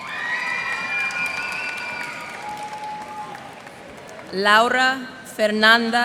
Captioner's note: cheers and applause